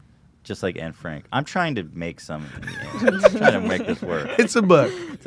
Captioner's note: laughs